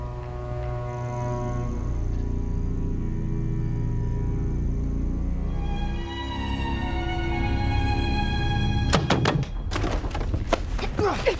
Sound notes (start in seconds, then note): 7.2 knocking